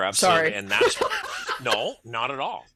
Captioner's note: laughs